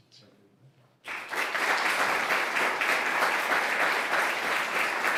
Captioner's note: applause